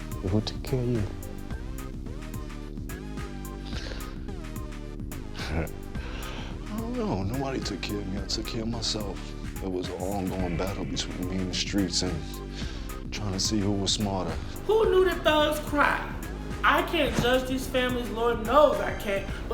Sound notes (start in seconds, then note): 3.6 inhales deeply; 5.2 scoffs